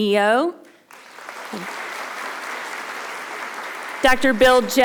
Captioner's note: audience applauding